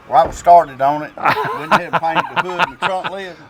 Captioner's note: laughing